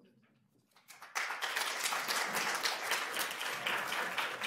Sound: audience applauds

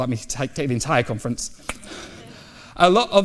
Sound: audience laughing

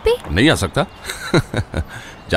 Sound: laughs

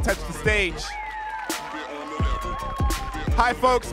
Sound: audience cheering

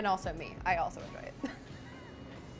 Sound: laughing

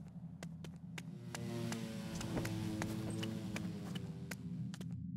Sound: lawnmower whirring

